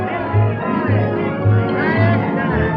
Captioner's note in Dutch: geklets